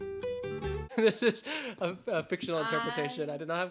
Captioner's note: laughing